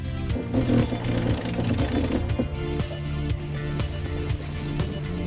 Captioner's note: winch pulley block rattling